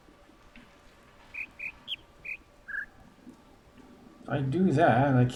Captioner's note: bird chirps ˧ ˧ ˥ ˧ ˩